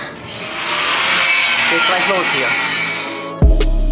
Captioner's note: saw noise